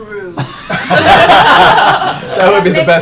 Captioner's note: laughter